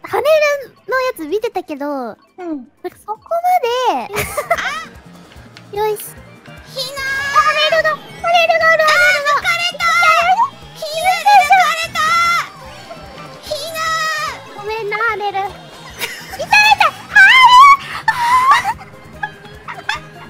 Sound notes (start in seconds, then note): 16.6 laughing; 19.4 laughing